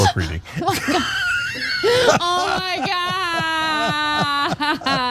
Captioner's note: laugh